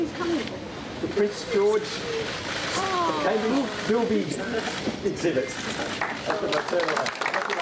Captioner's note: audience clapping